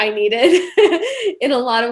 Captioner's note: chuckling